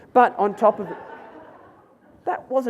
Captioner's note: audience laughs